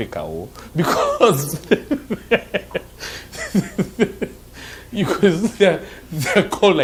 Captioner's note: laughing